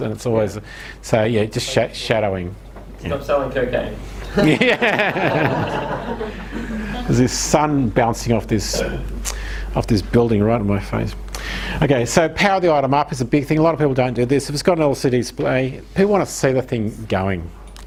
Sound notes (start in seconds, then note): 4.3 everyone laughs